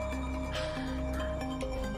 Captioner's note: sighs